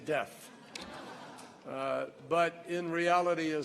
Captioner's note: laughter